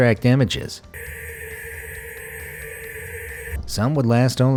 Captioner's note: white noise buzzing